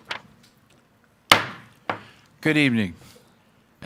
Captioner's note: gavel thuds